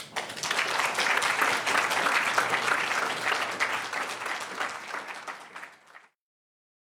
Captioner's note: applause